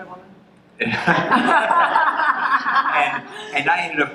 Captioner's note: laughter